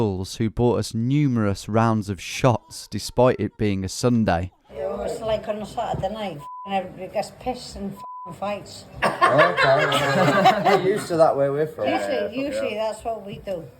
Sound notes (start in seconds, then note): 9.0 patron laughs